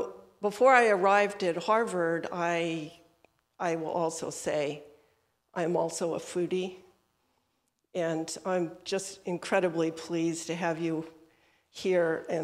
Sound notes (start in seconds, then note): none